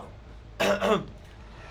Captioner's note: Coughs in Spanish